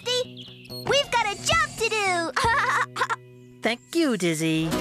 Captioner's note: laughing